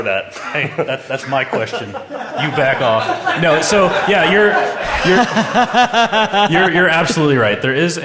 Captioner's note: laughter